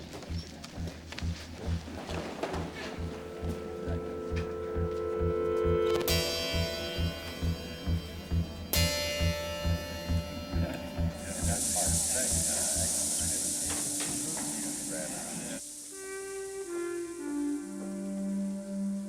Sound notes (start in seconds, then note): 1.4 footsteps shuffle; 1.4 people chatter indistinctly; 16.5 soft music